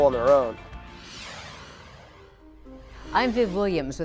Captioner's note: logo swooshes